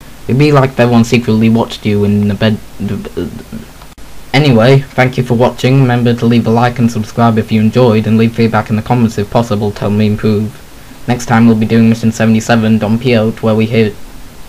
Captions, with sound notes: It would be like if everyone secretly watched you in, the bed- [Weird Robot Patented Flub Noises] Anyway, thank you for watching, remember to leave a like and subscribe if you enjoyed and leave feedback in the comments if possible to help me improve. Next time we'll be doing Mission 77, Don Peyote, where we hear-